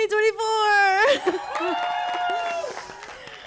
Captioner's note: applause